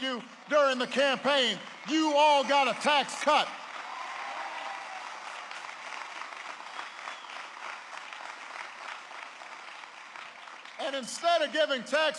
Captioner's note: applause